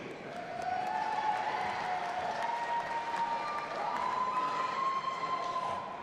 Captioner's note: audience applauding and cheering